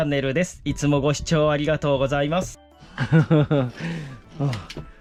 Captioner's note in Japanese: 笑い